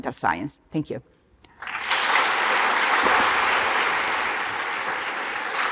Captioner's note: applause